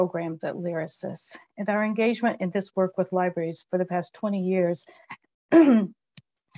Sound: cough

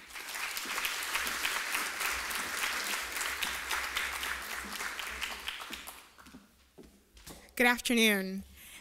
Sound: applause

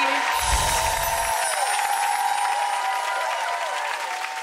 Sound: audience cheering

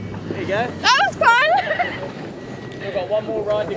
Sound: laughs

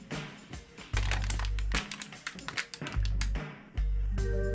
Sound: crushes bottle in real time

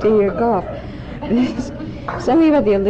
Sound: laughter

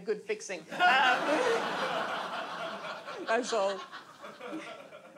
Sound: audience laughs

